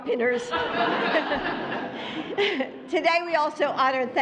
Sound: laughter

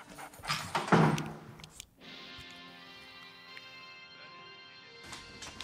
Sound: tv running

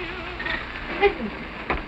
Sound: engine sound

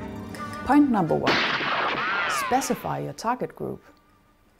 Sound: sound of gunshot

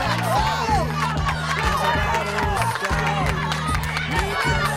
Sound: team cheering

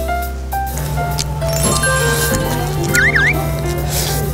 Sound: slurping ramyeon for the hungry stomach

